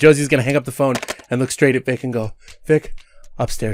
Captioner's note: phone clatters